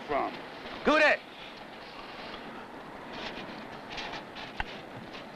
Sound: speaking in foreign language

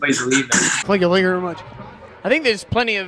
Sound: Elvis impression

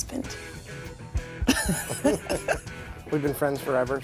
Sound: laughter

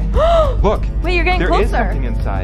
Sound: gasps

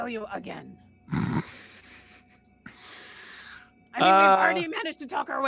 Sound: laughs

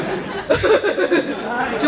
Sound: laughs

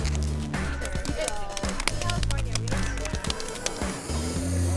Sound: plastic crinkles; meat slaps; can sprays

